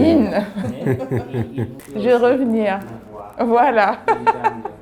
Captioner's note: laughs